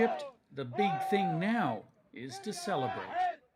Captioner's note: chanting